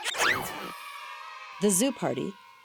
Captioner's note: children laughing; children cheering